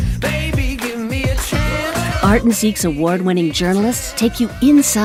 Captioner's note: voiceover